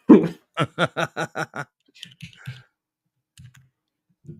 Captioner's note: laughter